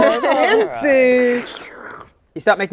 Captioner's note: slurp